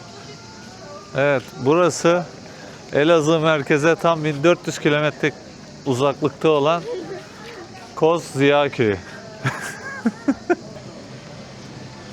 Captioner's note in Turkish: kahkaha